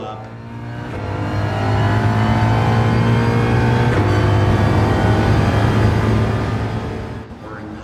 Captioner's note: engines revving, cars noises